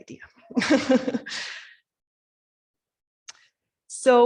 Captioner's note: laughing